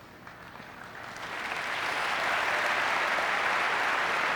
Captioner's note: audience clapping